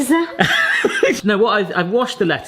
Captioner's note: laughter